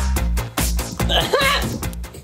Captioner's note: nervous giggles